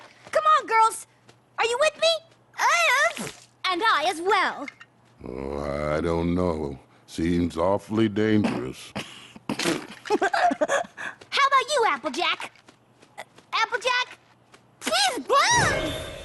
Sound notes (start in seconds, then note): 9.4 laughs